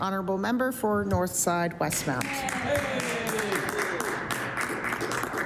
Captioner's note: applause